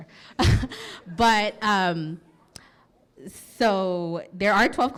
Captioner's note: chuckles